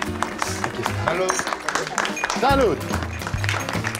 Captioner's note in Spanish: aplausos